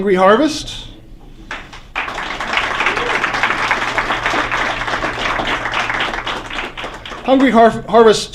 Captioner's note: applause